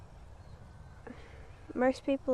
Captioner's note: sighing